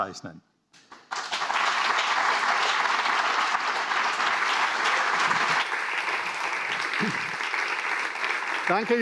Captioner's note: applause